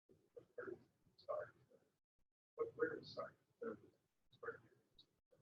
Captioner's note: speaking away from mike